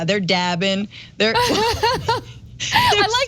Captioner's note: laugh